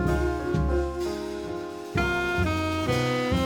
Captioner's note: alarm buzzing